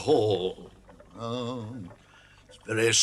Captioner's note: badger groans